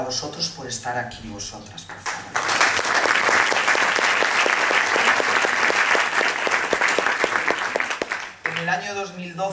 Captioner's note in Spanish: Aplausos